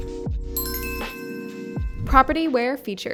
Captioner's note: bell chimes